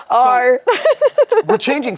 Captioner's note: laughs